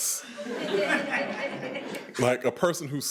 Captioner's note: attendees laughing